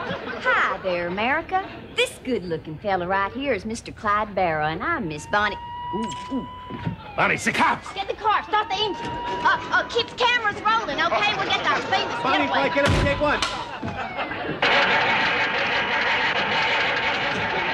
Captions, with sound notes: - Hi there America! This good looking fellow right here is Mr. Clyde Barrow, and I'm Miss Bonnie- (sirens) Oo, oo! - Bonnie, it's the cops! - Get in the car, start the engine! Keep the cameras rolling, okay, we're getting our famous getaway. - Bonnie and Clyde getaway, take one. (engine sputters)